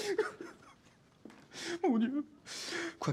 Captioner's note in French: sanglots